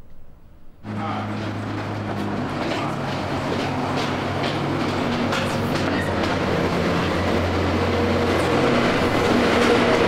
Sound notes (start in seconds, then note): 0.7 loud urban noise